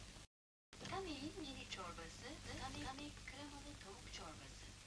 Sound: sounds come from the TV

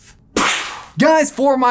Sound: imitates explosion

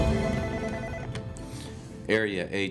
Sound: uplifting orchestral music; telephone ringing

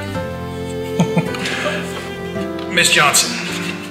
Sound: Judge Kelly chuckles

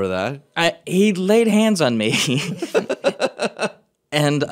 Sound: laughing

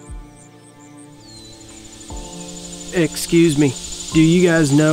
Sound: cicadas chirring

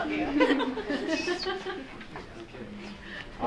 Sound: laughing

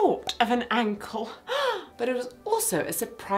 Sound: gasps

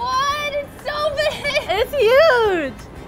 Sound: laughs

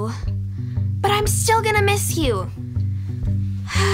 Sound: sighs

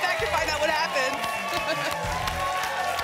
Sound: laughs; applause and cheering cont

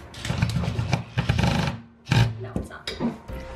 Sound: drill whirring

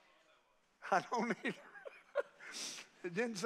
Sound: laughs

